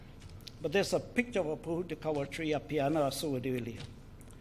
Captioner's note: speaks in foreign language